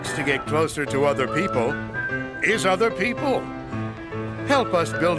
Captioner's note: whistling